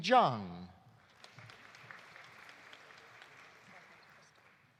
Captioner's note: audience applauding